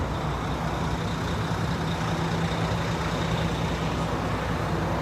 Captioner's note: engine revving